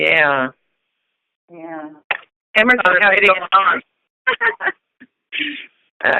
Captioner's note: laughter